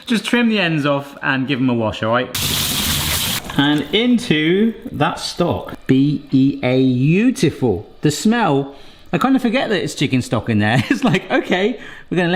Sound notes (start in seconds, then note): 2.3 water gushing; 8.7 sniffs